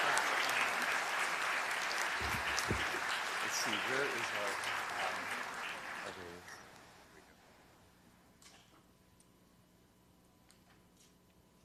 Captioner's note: cheers and applause